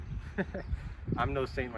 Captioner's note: hearty laugh